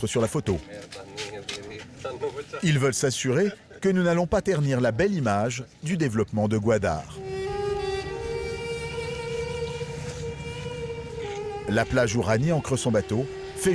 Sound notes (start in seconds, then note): 2.3 people chattering; 7.6 soft Middle Eastern music